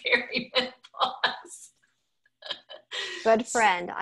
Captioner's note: laughing